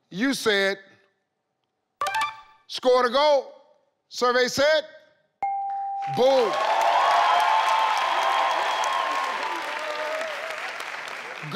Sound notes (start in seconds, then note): 5.4 tone dinging; 6.0 audience clapping and cheering